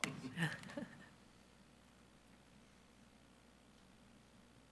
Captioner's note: participants chuckling